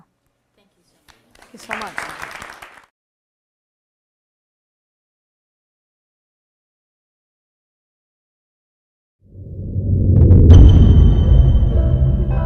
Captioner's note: audience applause